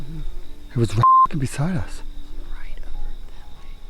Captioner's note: beep